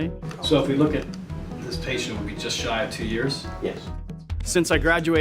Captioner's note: office chatter